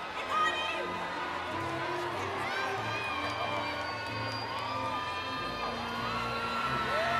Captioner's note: cheering continues; inspirational music